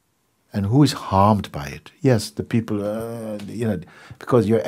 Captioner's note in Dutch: kreunt